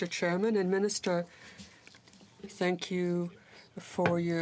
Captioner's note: speaking in french